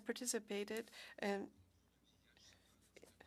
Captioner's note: speaking French